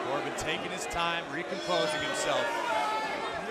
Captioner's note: crowd cheering